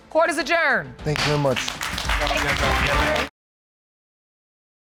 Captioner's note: applause